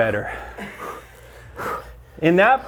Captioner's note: breathing heavily